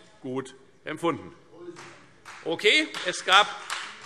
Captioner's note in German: Beifall Freie Demokraten und vereinzelt AfD